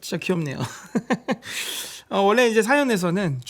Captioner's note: haha